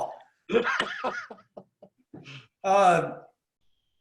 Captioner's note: laughs